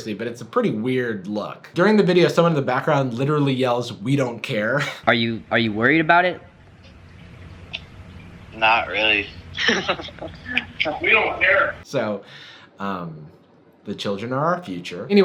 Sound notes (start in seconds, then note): 9.5 laughing